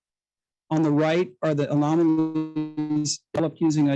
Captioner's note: audio interference